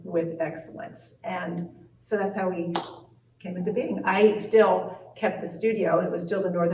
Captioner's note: claps hands